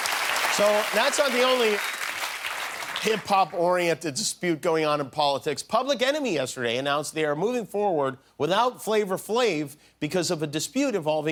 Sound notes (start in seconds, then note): 2.6 applause